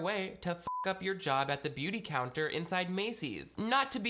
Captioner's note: beep